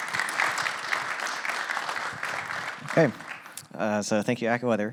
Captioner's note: applause